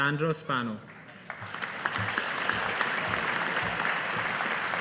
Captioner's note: audience applauding